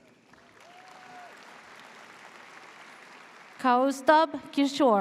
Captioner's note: audience cheers